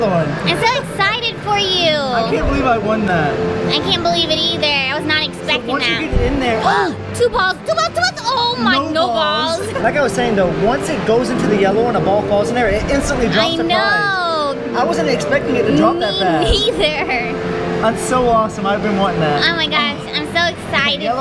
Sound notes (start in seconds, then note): 7.4 gasps; 9.6 laughter